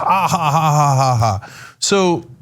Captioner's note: laugh